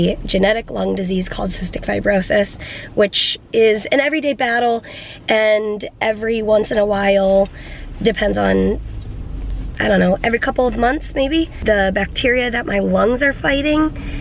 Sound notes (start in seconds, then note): none